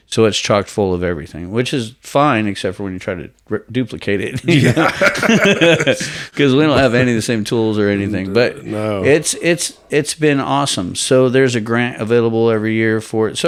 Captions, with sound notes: - So it's chocked full of everything, which is fine, except for when you try to duplicate it. - Yeah. (both men laugh) - Because we don't have any of the same tools or anything. But it's been awesome. So there's a grant available every year for it.